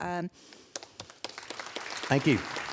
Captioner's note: applause